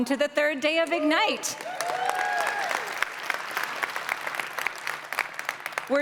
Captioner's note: applause